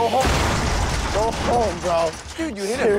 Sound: metal rattling

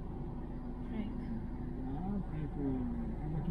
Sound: whispering

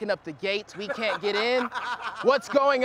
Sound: laughter

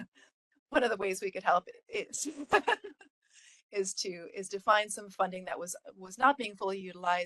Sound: laughing

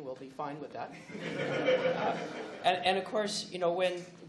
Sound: laughs

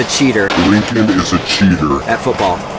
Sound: demonic Voice

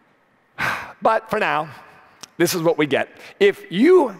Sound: sighs

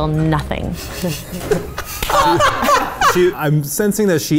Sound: laughing

